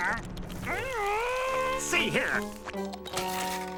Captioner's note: growling